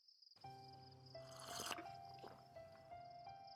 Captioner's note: grandfather slurping